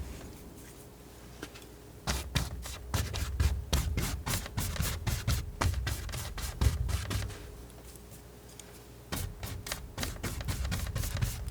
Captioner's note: scratching